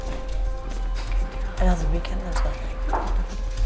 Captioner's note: soft chatter